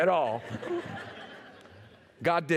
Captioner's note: laughter